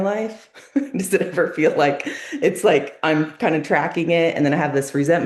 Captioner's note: laughs